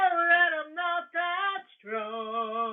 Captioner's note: none